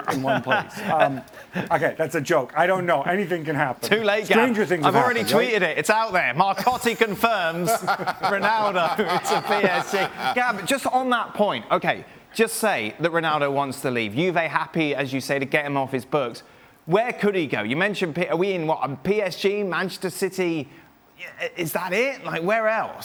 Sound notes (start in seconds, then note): 11.3 laughter